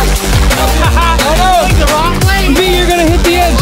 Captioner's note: laughing